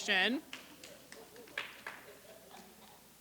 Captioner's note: applause